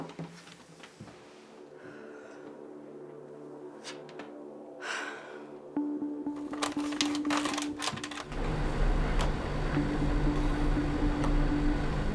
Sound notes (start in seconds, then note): 0.6 dramatic music plays; 4.3 sighs